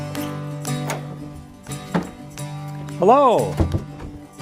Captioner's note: door clanks